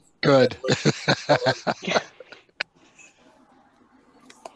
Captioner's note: laughs